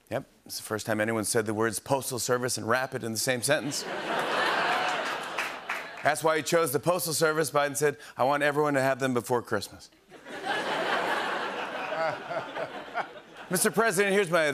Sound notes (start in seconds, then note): 3.6 laughter; 10.1 laughter